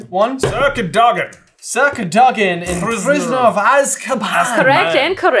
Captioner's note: accented